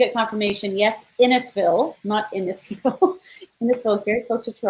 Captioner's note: laughs